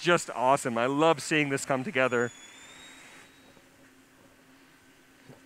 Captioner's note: pause